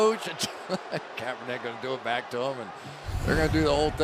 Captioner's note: laughs